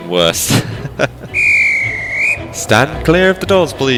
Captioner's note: laughs; whistles